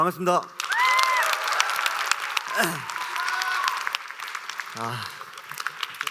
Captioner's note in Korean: 박수와 환호